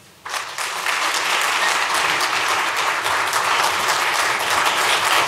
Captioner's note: applause